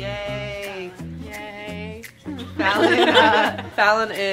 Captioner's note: altogether laughing